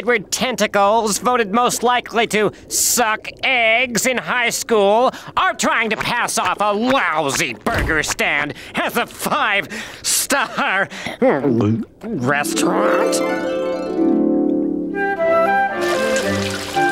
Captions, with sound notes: That you, Squidward Tentacles, voted most likely to suck eggs in high school, are trying to pass off a lousy burger stand as a five-star... [gulping] ...restaurant?